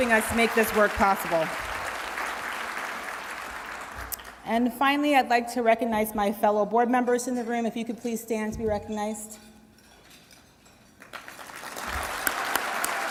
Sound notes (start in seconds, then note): 11.0 applause